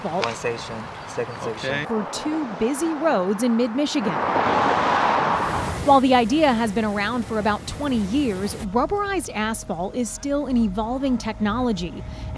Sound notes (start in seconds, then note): 0.0 machinery squeaking; 4.4 vehicles whirring